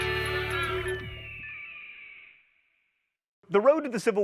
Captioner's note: eagle shrieking